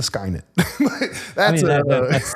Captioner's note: laughs